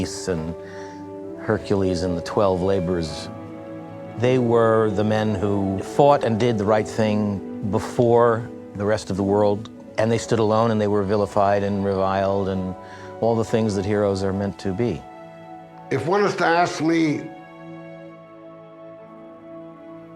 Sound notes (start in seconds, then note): none